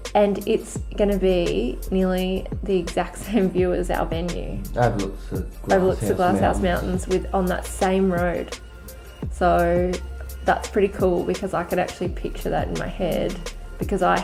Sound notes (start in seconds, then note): 3.1 laughs